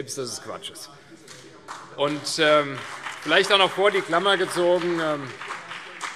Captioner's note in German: Beifall CDU und BÜNDNIS 90/DIE GRÜNEN